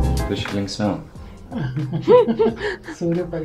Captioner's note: laugh in Lithuanian